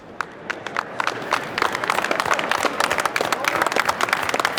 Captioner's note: clapping